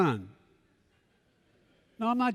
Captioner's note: laughter